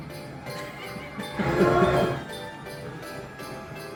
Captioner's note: train tooting